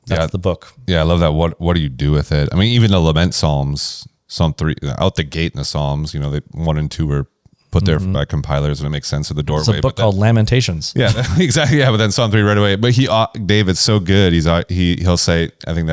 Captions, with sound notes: -Yeah -... that's the book. Yeah, I love that. What, what do you do with it? I mean, even the lament Psalms, Psalm three, out the gate in the Psalms, you know, they, one and two are put there- Mm ... by compilers and it makes sense at the doorway, but- -There's a book called Lamentations. -Yeah. [laughs] Exactly, yeah. But then Psalm three right away. But he al- David's so good, he's, uh, he, he'll say, I think